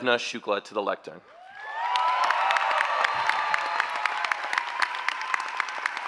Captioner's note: cheering and applause